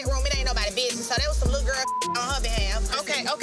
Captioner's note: beep